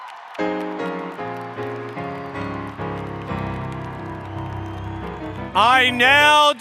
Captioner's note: cheering